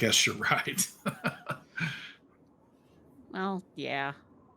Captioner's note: chuckles